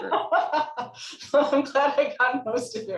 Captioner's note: laughing